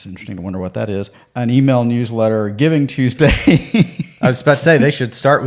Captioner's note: laughs